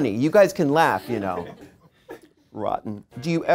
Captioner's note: audience laughing